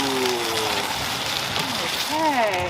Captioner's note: paper peeling